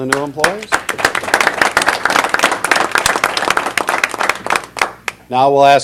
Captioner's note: applause